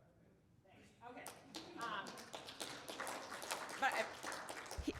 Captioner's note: applauding